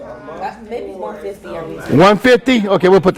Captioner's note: students chattering